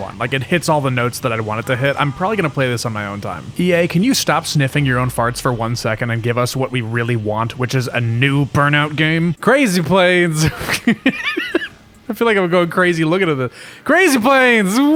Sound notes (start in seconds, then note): 10.3 laughs